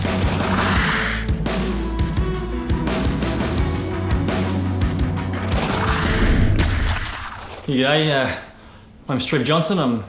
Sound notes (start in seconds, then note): 0.1 upbeat music; 6.4 splash